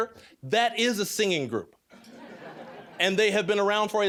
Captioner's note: audience laughing